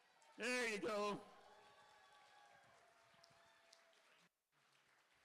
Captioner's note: cheering